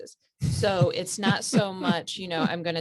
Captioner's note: laughs